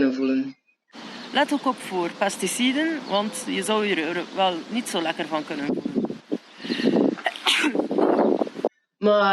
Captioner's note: sneezes